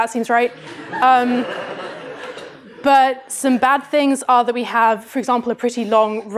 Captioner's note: laughter